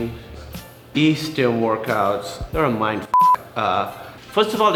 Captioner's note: beep